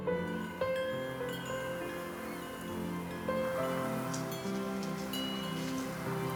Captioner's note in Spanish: Sonido de campanitas colgantes